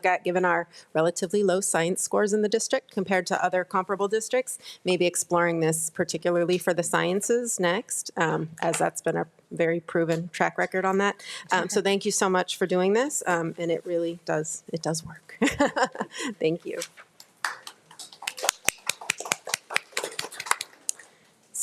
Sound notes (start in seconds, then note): 15.4 laughs; 17.4 trustees and staff members applauding